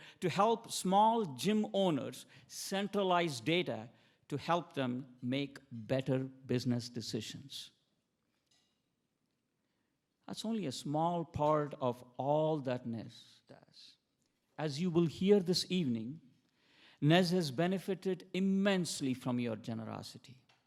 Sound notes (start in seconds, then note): none